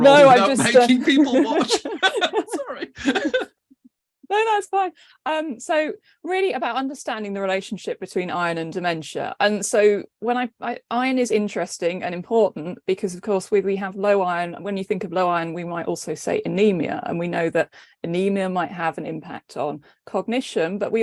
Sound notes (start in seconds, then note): 1.9 all laughing